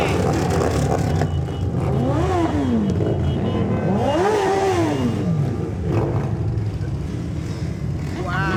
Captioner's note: engine revving - horns honking